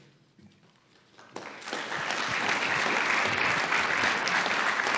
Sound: audience applauds

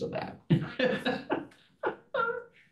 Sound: laughing

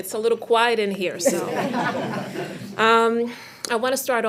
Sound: attendees laughing

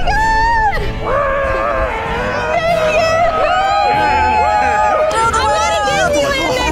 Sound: whooping and hollering

